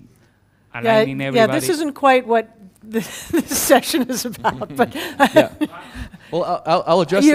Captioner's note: laugh